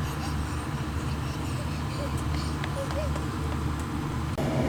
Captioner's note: laughing